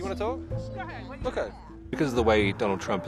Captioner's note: indistinct chatter